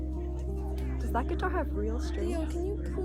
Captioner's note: mixed chatter